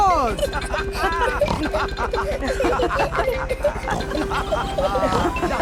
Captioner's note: all laughing and snorting